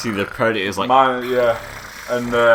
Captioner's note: predator noises